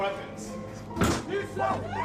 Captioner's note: thuds; screams